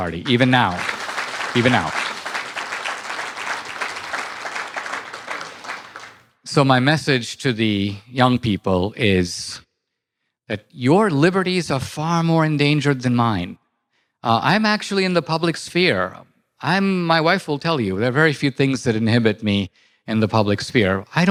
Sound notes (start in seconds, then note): 2.2 audience applause